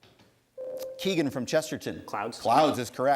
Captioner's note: ding